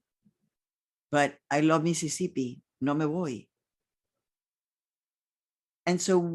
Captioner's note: speaking in foreign language